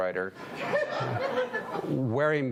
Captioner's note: audience laughing